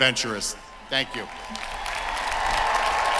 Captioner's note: cheering; applause